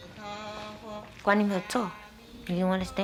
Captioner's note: speaking Taiwanese